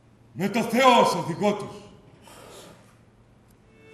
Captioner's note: none